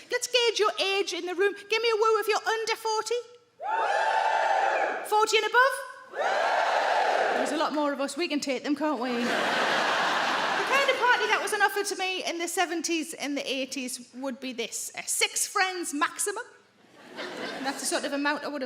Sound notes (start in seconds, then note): 3.6 crowd members cheer